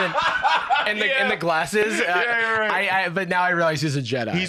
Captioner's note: laughing